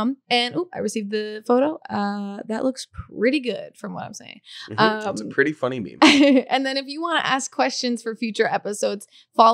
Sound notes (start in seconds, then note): 4.6 laughing